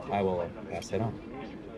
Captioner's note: murmurs